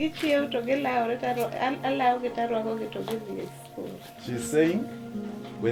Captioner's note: speaking in foreign language